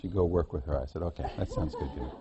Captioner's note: laughter